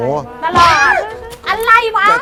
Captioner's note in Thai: หัวเราะ